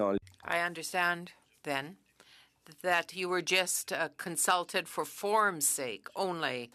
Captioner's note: speaking French